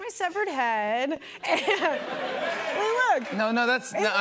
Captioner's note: laughter